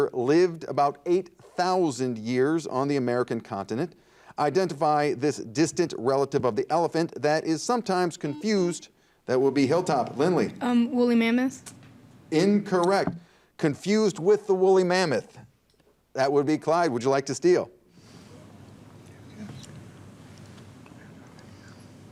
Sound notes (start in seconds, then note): 8.5 buzzer dings